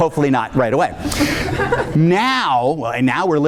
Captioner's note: audience laughing